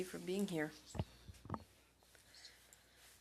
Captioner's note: speaking French